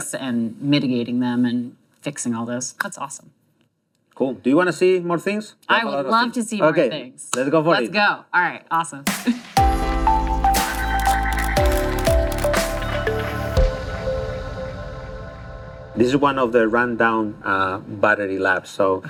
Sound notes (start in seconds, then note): 9.5 new age pop music; 9.7 camera flashing noises